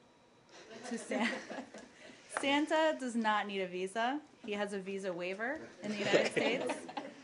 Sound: laughter

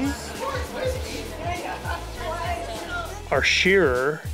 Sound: farm workers chat

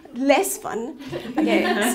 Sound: laughing

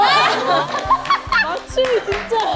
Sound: bursts out in laughter

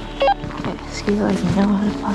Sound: radio beeps

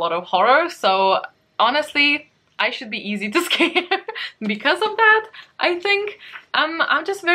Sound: laughs

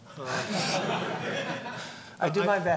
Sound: laughing

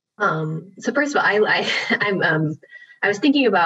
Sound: laughs

